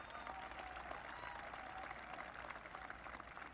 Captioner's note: applause